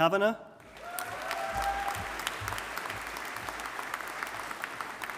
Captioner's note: audience applauding